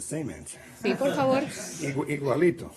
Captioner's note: laughter